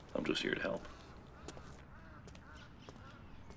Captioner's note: bird cawing